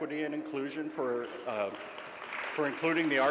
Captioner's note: audience applauds